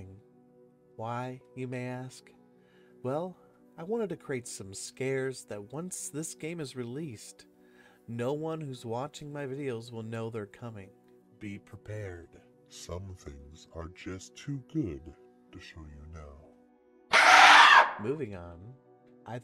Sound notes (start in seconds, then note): 17.1 loud screech